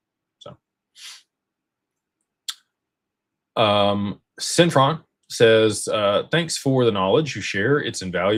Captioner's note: snorts